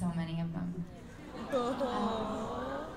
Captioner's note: awwws